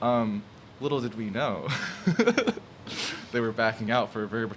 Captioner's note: laughs